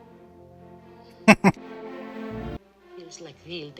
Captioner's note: chuckling